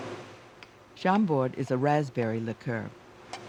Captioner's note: voiceover